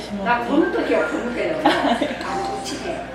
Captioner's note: laughs